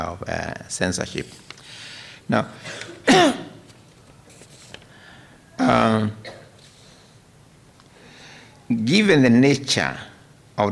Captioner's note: coughs